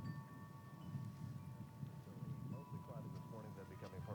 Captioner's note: radio Announcer